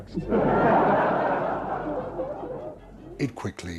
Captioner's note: audience laughs